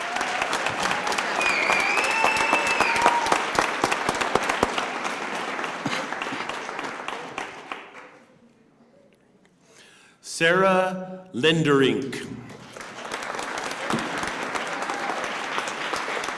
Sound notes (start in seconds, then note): 4.1 cheers and applause